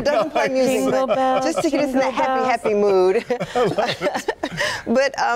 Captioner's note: laughter